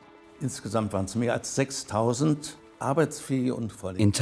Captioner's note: speaks in foreign language